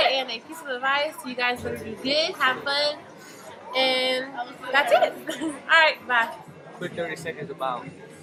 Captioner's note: giggles